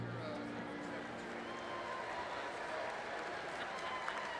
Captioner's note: congregation applauding